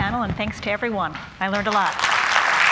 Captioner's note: applause